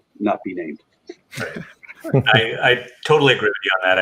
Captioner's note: chuckling